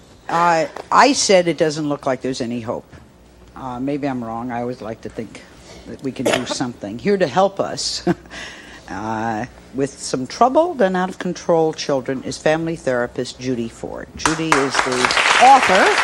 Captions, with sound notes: I, I said it doesn't look like there's any hope. Maybe I'm wrong, I always like to think that we can do something. Here to help us (chuckles) with some troubled and out-of-control children is family therapist, Judy Forge. Judy is the author of